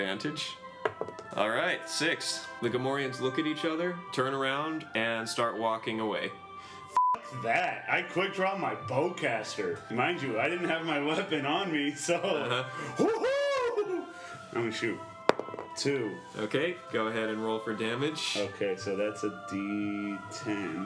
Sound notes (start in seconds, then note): 15.3 rolls dice; 20.2 rolls dice